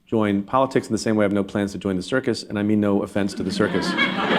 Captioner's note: laughter